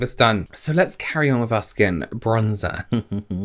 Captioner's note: chuckles